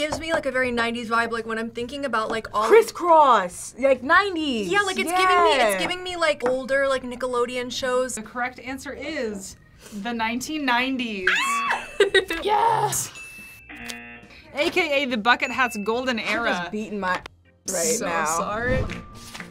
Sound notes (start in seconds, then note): 11.2 screams; 13.3 buzzer